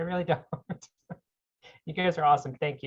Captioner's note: laughs